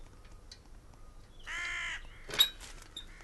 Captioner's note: crow singing